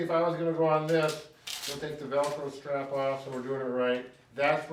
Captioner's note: velcro scraping